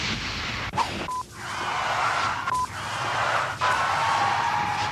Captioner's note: tires squealing